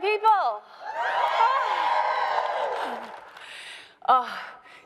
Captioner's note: crowd cheering